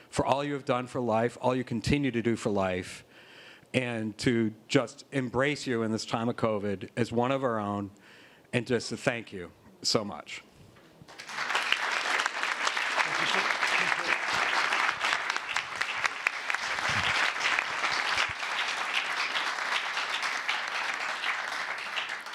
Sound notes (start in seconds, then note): 11.1 applause